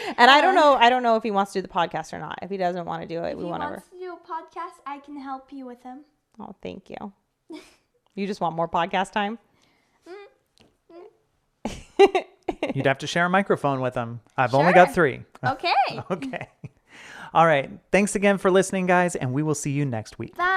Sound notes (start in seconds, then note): 0.0 laughing; 11.7 chuckling; 15.4 laughing